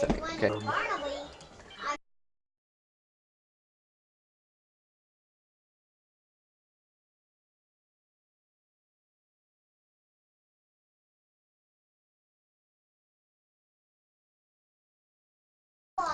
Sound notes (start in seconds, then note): 2.0 silence